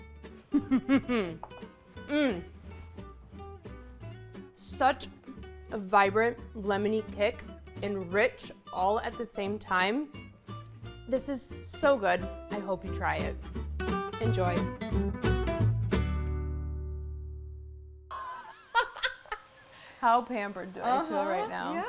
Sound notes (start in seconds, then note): 0.5 laughs; 15.1 upbeat music; 18.2 laughs